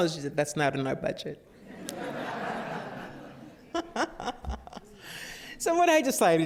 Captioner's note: laughter